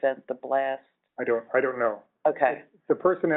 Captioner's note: voiceover